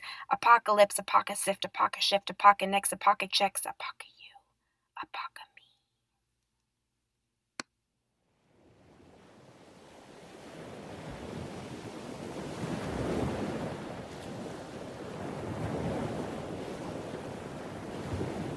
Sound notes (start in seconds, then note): 3.4 whispering; 9.3 ocean waves